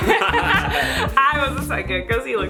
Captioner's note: laughs